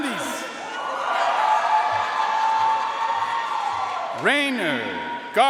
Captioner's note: audience cheering and applauding